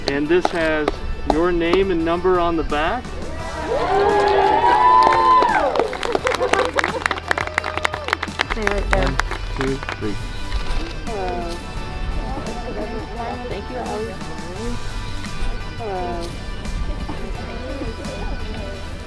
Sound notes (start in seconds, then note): 3.4 cheers, applause; 10.3 camera shutter clicks